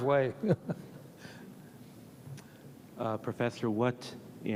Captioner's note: Leon laughs; audience members laugh